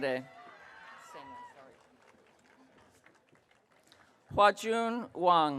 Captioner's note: audience cheering